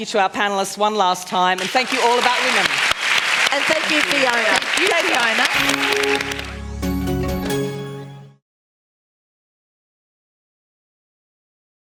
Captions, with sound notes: for our panellists one last time. And thank you, All About Women. [ Applause ] >> And thank you, Fiona. >> Thank you.